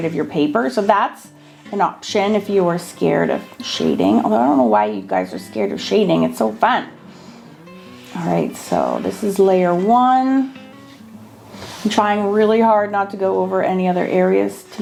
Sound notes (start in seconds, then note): none